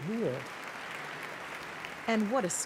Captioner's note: crowd applause